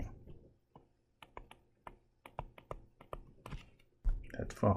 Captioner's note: tapping Sounds